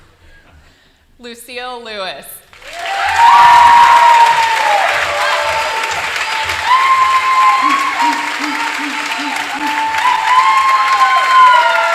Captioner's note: applause